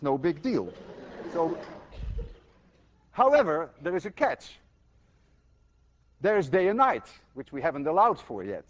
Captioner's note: students laugh